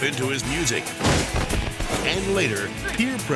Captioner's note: person thuds